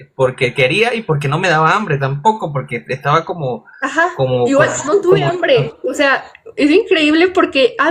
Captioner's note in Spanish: risas